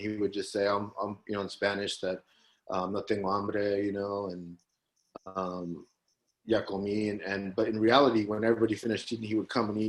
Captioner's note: Spanish language